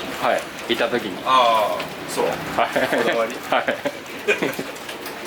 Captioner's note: laughs